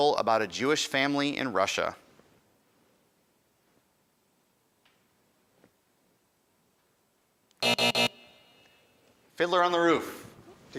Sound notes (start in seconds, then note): 7.6 end time buzzer rings